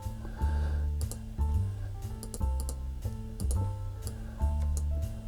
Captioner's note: mouse clicking